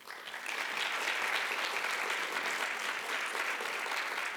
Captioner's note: audience applauding